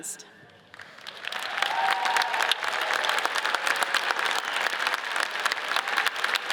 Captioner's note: audience cheers and applauds